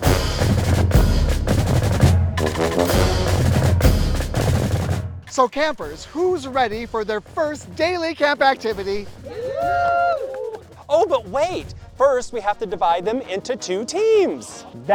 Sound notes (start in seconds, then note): 0.1 band music; 9.1 campers cheering